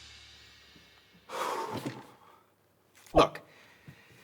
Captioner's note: breathing heavily